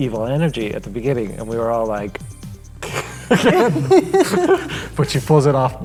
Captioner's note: laughing